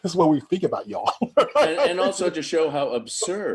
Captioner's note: chuckling